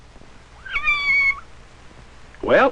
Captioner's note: mewing